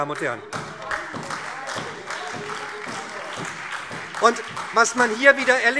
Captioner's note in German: Beifall SPD und Freie Demokraten